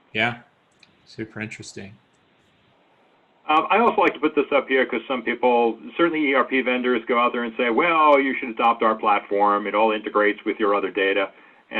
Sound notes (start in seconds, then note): none